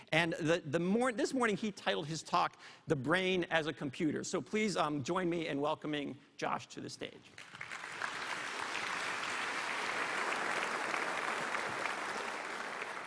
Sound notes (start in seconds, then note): 7.3 applause